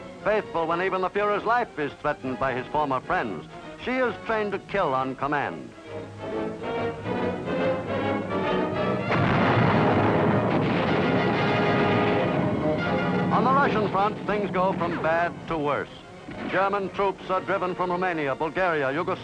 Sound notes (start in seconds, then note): 6.9 dramatic music; 9.0 artillery blasting